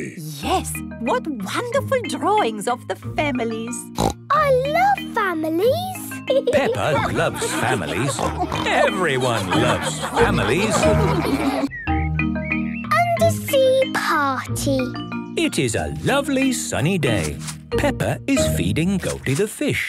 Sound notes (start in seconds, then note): 4.0 snorts; 7.3 snorts